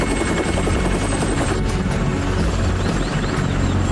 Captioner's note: хеликоптер бръжи